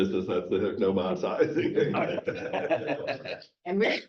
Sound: chuckle

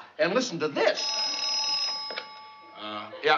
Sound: phone rings

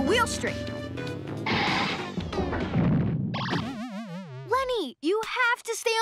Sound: tires screech

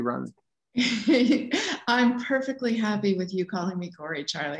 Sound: chuckles

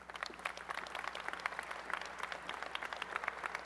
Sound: applause

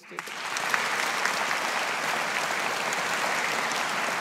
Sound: audience applauding

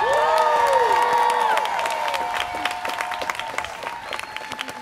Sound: students cheering

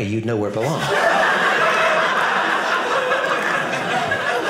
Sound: audience laughing

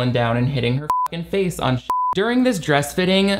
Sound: beeps

